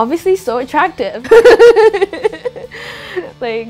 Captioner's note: laughing